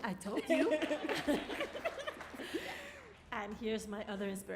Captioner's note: laughing; applauding